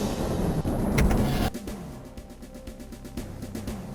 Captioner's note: rumbling sfx; elevator sfx